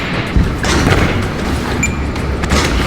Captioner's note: luggage slams; device beeps